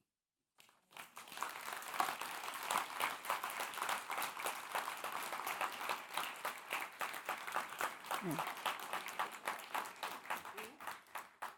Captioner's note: applause